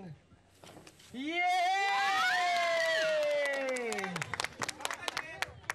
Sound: crowd applauds

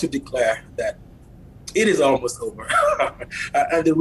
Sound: laughs

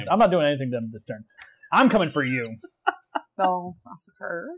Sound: chortle

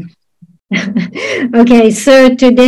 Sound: translator laughs

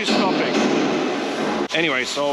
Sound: loud banging continues

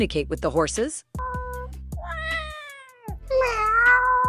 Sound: cat meowing

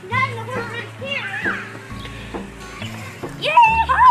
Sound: chattering

